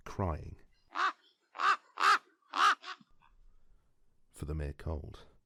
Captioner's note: raven caw sfx